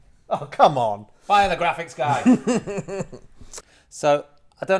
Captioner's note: laughs